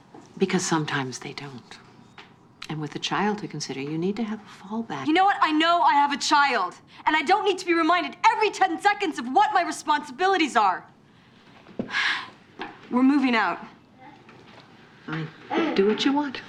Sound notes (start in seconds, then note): 11.8 sighing